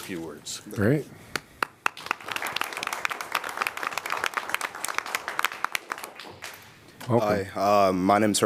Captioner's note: applause